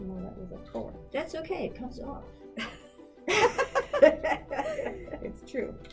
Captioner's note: laughs